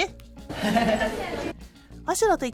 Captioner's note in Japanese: 羽生結弦の笑い声